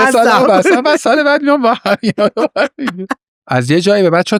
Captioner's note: laughs